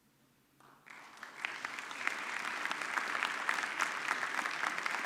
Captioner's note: audience clapping